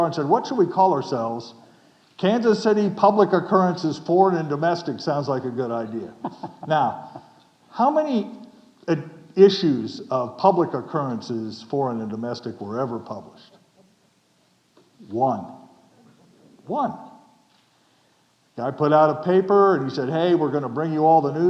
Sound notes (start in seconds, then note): 6.0 chuckling